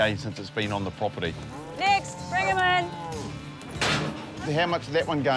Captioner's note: cattle low